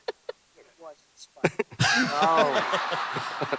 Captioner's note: laughter